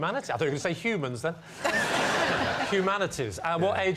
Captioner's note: laughter